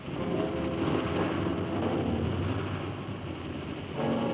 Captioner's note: engine revving